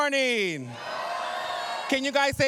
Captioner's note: cheering